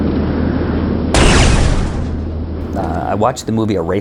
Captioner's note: rocket launching